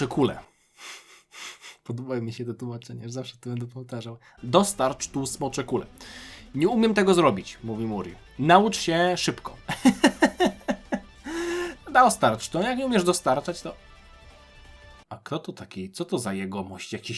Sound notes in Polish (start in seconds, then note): 9.6 śmiech; 11.2 wciągnięcie powietrza